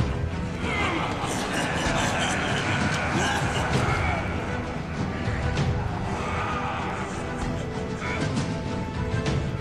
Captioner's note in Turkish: Kahkaha sesleri